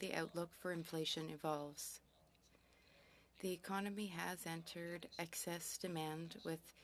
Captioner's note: speaking French